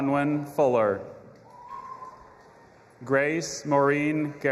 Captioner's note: audience applauding and cheering